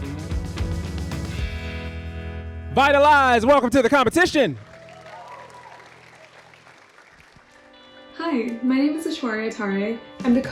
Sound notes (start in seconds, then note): 0.1 upbeat music; 3.6 audience applauding